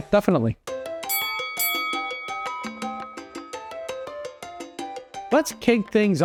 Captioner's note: lighthearted music; bell dings